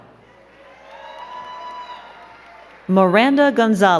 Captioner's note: crowd cheering and clapping